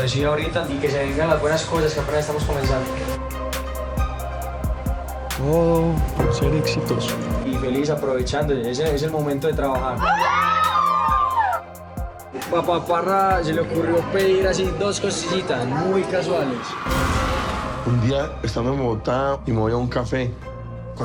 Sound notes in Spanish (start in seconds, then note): 10.0 chicas aclaman